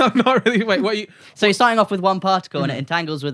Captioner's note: laughter